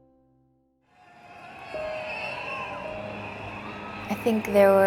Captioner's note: crowd noise